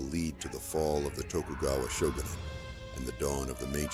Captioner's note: indistinct shouting